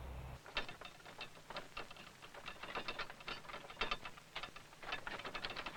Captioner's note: wagon sound